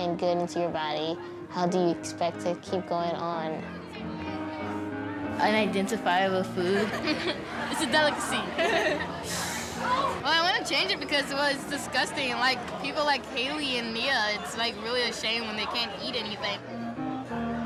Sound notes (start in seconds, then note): 6.7 laughs; 6.7 girls laughing